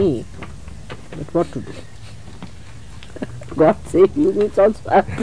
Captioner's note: laughs